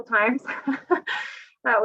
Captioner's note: she laughs